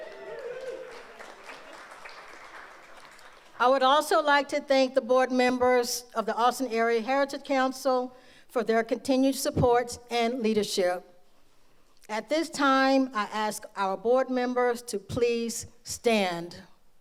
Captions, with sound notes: (audience applauds) I would also like to thank the board members of the Austin Area Heritage Council for their continued supports and leadership. At this time, I ask our board members to please stand.